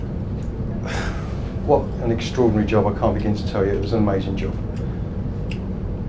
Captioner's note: sighs